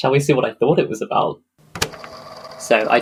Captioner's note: tape recorder clicks on